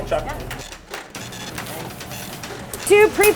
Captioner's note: receipt printer buzzing